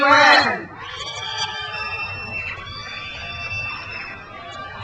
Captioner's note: crowd cheers